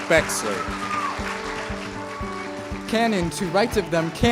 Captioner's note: cheers and applause